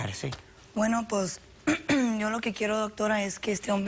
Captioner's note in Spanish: Carraspea